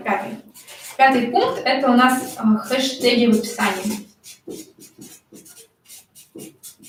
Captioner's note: скрежет маркера